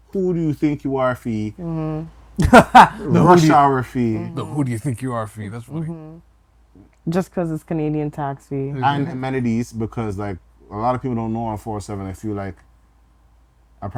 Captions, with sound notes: Who do you think you are fee? - Mm-hmm. (laughs) - The rush hour fee. - The who do you think you are fee? That's funny. - Just cause it's Canadian tax fee. - And amenities because like, a lot of people don't know on Hwy 407, if you like I